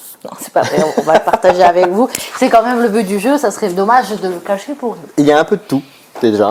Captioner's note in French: rires